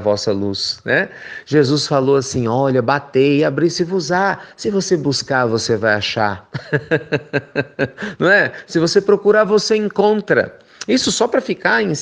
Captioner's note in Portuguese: risos